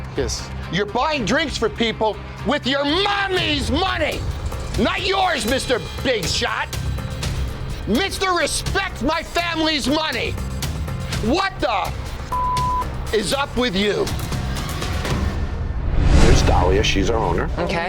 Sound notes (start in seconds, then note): 12.3 beep; 14.6 dramatic instrumental music